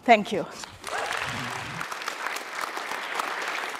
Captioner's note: applause